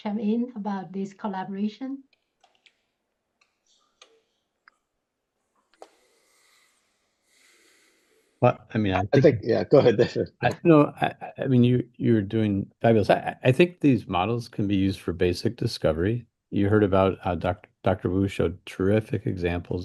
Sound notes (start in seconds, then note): 2.9 pause